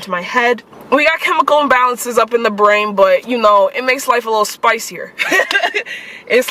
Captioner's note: laughter